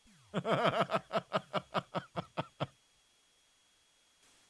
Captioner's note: laughs